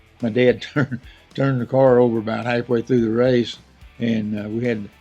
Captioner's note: laughs